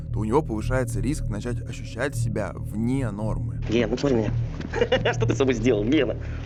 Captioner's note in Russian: смеется